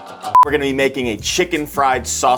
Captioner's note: upbeat guitar music; note beeps